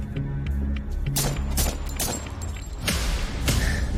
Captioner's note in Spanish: Disparos